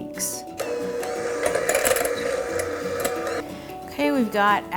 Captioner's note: mixer whirring